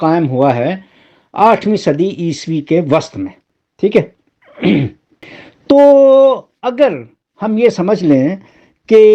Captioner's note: sound of clearing throat